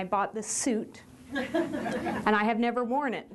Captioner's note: chuckles